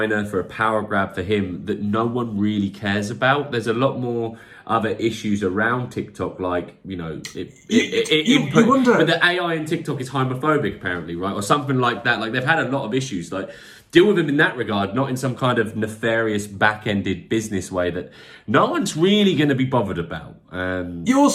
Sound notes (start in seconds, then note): 6.7 stammers